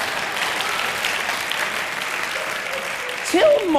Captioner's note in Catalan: Aplaudiments